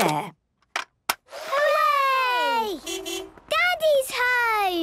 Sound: distant beeping

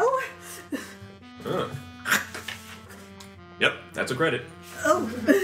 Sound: bites

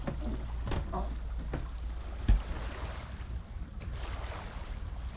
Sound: water gently lapping

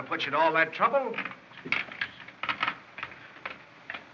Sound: slams Door

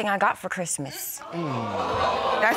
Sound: audience reacts

